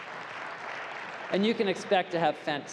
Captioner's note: applause